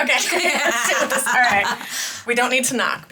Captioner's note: both laughing